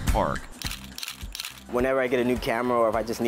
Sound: camera snaps

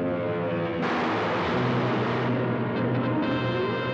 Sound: gunfire

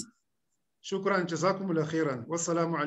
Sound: speaking arabic

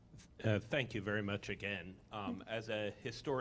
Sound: voiceover

